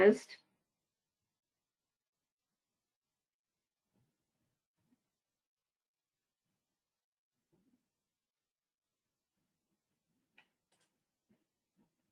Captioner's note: 14 seconds pause